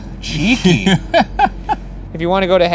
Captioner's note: laughs